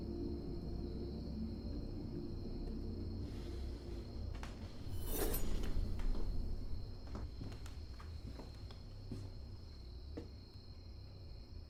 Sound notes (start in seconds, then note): 5.1 knife clattering; 8.7 insects chirping